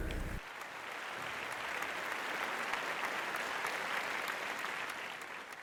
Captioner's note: audience members clapping